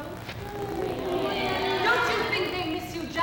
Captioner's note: women sigh